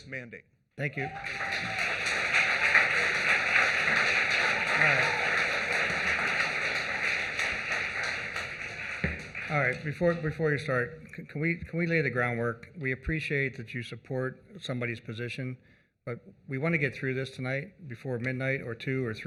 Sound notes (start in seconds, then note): 7.0 applause